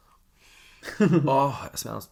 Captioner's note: laughs